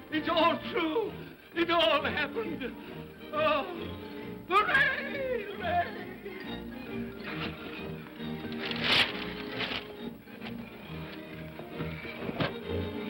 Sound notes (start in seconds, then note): 6.8 upbeat whimsical music; 8.4 shades clatter; 10.4 upbeat whimsical music